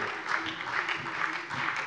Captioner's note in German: Beifall